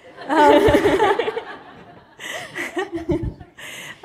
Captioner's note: laughter